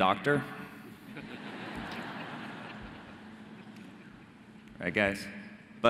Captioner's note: audience laughing